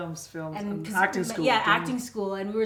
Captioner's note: none